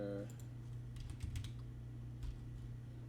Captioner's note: typing